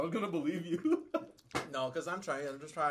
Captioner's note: laughs